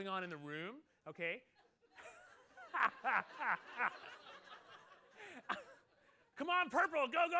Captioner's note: laughter